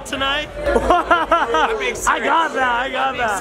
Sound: laughs

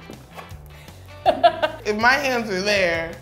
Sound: laughs loudly

